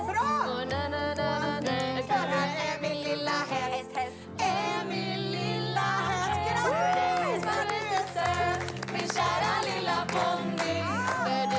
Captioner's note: Applåder